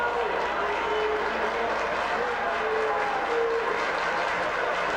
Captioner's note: spectators applauding